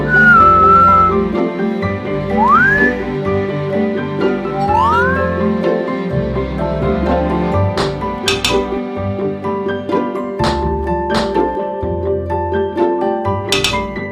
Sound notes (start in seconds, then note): 7.6 DUN! Ting-Ting!